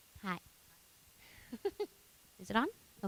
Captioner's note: laughing